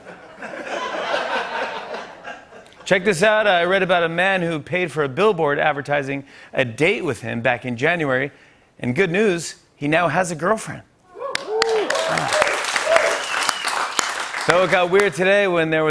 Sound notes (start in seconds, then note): 0.0 laughter; 11.1 cheering and applause; 13.0 whistling